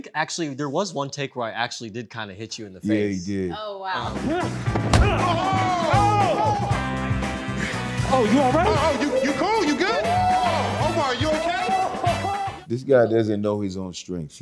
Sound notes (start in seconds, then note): 5.5 shouting; 11.6 whooping